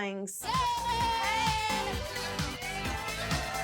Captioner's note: crowd cheers